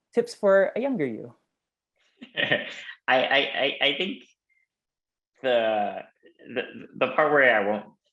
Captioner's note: laugh